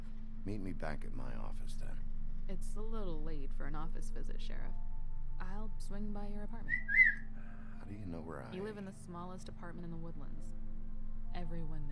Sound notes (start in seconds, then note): 6.6 wolf Whistle